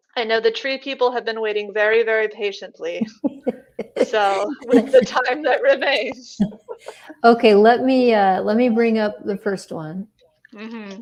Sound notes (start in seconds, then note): 3.0 laughing; 6.6 laughs